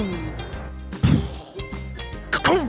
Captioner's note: imitates explosion